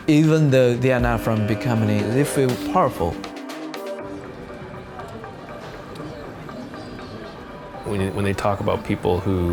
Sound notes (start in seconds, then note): 3.2 anticipatory music continues; 3.7 people chattering